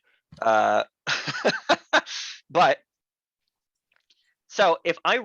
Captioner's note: instructor laughs